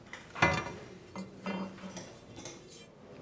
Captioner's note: clattering